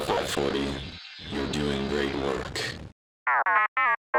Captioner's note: transmission Voice